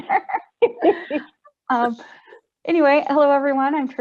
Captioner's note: laughter